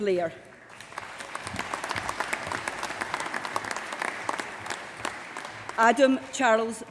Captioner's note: applause